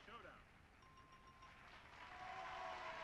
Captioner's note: bell chimes; audience applauds